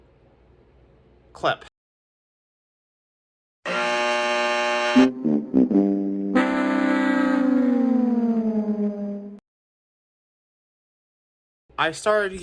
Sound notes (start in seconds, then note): 3.6 buzzer, then losing horns from "The Price is Right" plays